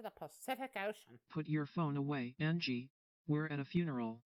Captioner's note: imitating Ava